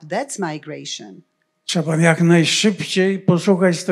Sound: foreign language

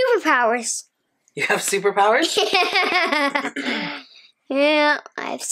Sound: laughs

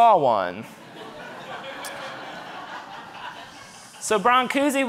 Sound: audience laughing

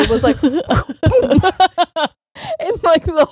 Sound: both laughing

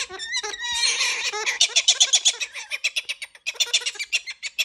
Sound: bird squawking

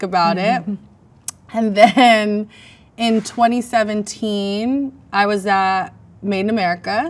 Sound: laughs

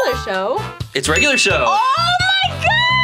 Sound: bell dings

